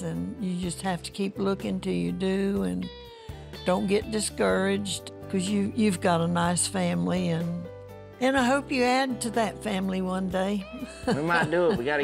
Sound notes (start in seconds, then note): 10.8 chuckles